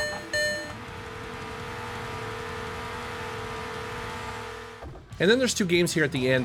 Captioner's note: harsh beeping; sports car engine humming